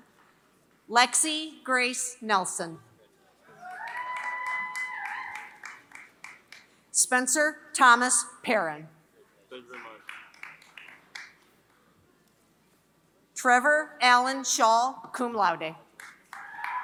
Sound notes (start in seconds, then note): 0.0 applause